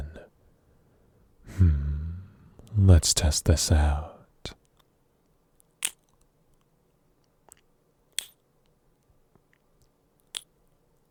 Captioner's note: ki$$ing